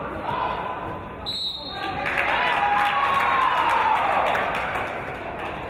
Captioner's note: referee's whistle